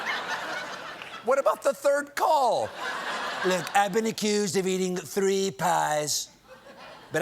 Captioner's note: laughter